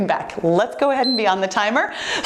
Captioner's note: timer beeps